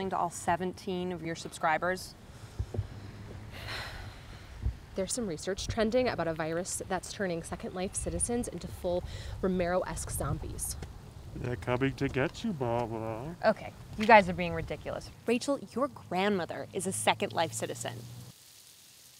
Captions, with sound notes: to all 17 of your subscribers? - (sighs) There's some research trending about a virus that's turning second life citizens into full Romero-esque zombies. - "They're coming to get you, Barbara." - Okay. You guys are being ridiculous. Rachel, your grandmother is a second life citizen.